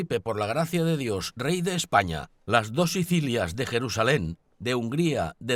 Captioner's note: man speaks in a foreign language